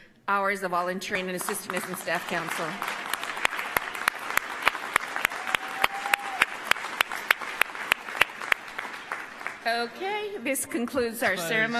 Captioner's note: applause